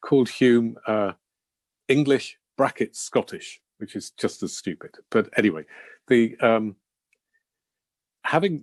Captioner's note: Scottish